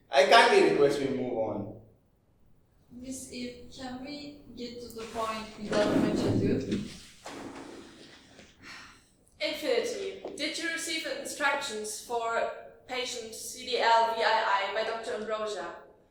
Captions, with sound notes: I kindly request we move on. Ms Eve, can we-- get to the point without much ado? [EVE SIGHS] Infinity, did you receive instructions for patient CDLVII by Dr Ambrosia?